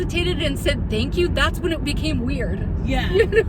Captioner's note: laughs